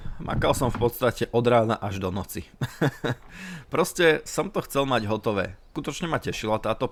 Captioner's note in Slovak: smiech